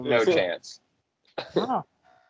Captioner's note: chuckles